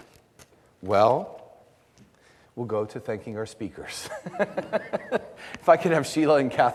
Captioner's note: laughs